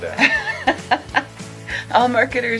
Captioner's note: laughs